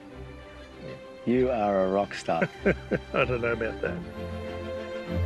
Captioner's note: chuckles